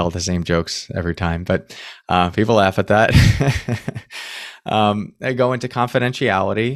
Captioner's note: laughs